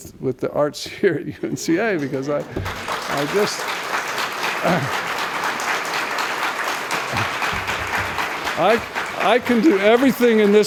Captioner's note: applause